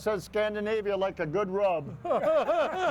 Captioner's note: people laughing